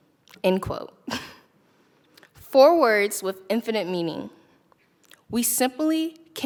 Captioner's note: chuckles